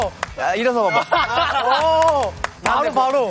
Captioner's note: cracking up